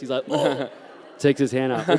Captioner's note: laughter